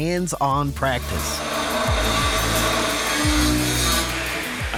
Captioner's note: saw whirring